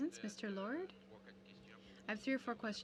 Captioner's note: speaking French